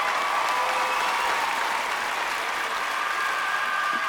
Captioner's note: clapping and cheering